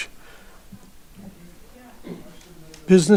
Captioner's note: group chattering